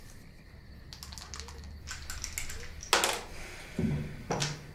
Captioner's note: shaking a dice